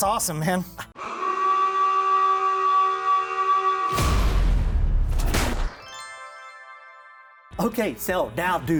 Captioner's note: alarm sounds